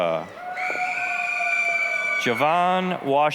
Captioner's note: applause, cheering